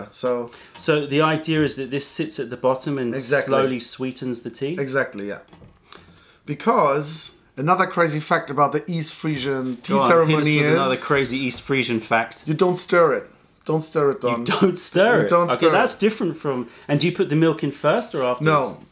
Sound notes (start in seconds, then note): 14.3 laughter